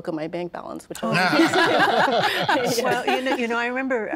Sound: all laughing

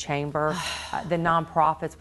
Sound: sighs

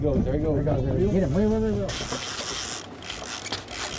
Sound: reel spinning

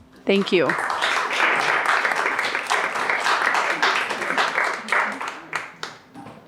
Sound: applause

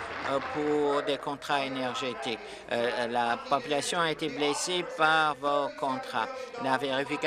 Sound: applause

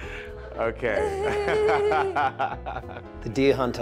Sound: laughs

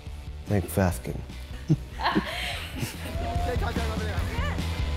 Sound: laughs

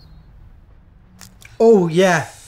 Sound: crunch

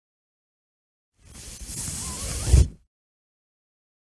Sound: sound of cloth slide out

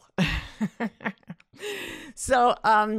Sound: chuckles

